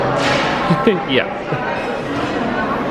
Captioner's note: laughing